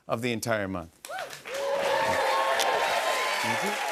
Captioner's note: cheers and applause